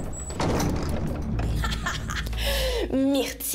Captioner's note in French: rire maléfique